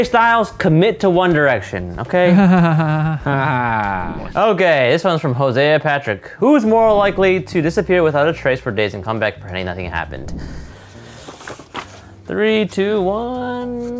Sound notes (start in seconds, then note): 2.2 laugh